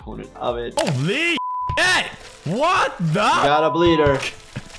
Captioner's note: beep